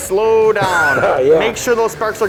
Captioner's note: laughter